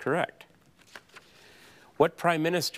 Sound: paper crinkling

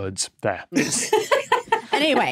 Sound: laughs

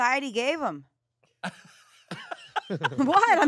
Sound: everyone laughs

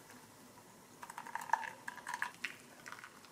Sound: glug Glug Glug

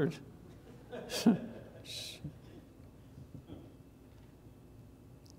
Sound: congregation laughs

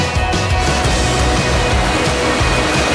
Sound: river Rushing

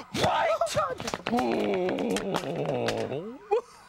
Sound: groans angrily; sobbing

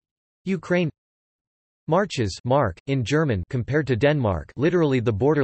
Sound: in German

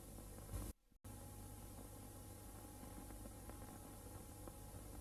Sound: VHS static

